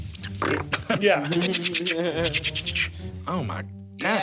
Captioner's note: mimics paper rustling